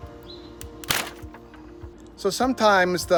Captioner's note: Lexan snaps